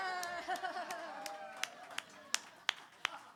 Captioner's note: hootin' and hollerin'